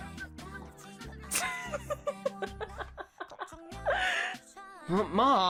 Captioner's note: joshua's mom laughs